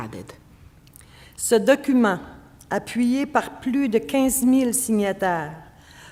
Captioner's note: speaking French